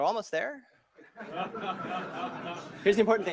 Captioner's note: laughter